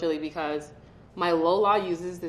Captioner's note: none